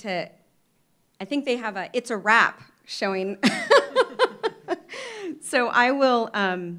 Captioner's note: laughs